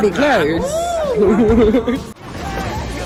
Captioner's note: laughs